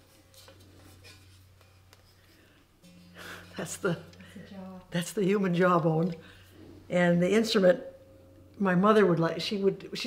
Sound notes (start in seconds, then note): 2.9 laughs nervously